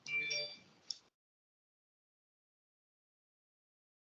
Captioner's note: computer bleeps